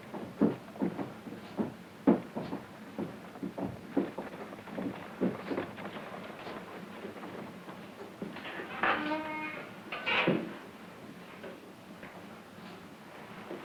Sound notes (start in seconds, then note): 8.4 door creaking